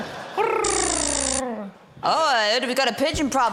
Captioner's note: guy mimics bird cooing; lasers buzz